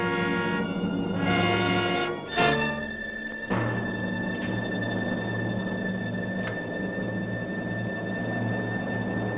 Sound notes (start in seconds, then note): 0.0 pensive orchestra music; 1.3 wind blowing